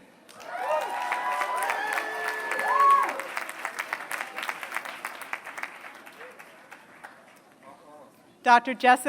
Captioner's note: applause